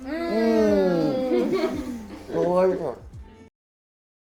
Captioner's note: all moan